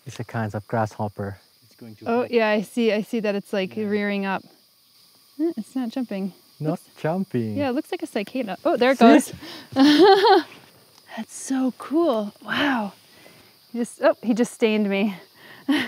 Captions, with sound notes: - It's a kind of grasshopper. - Yeah, I see, I see that it's like rearing up. It's not jumping, - It's not jumping. - Yeah, it looks like a cicada. Ooh, there it goes. - See! (laughs) That's so cool, wow. He just stained me.